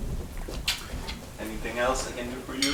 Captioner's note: lips smacking